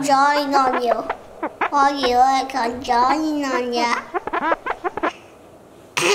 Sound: laughs

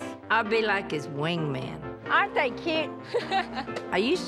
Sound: laughs

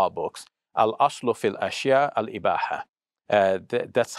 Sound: speaks Arabic

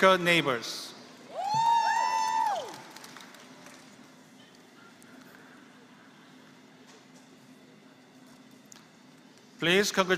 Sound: applause

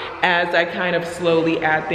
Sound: exclaims

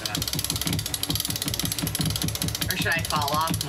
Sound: pulley ratcheting

